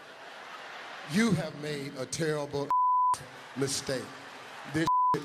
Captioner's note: beep